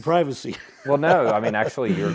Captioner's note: laugh